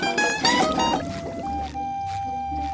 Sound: none

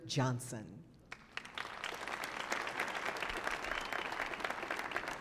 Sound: audience applauding

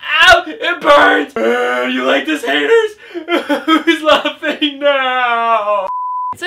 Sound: cries

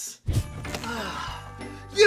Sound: sigh of relief

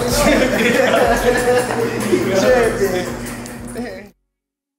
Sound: laughter

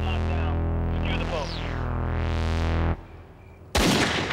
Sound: radio voices; gun shot

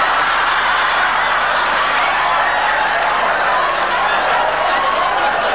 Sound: audience laughing

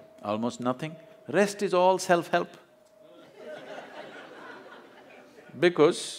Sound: laughter

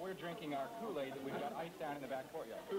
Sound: chatter

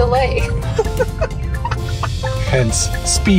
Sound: laughter

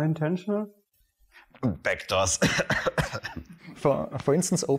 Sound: coughing

